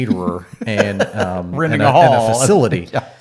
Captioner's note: laughs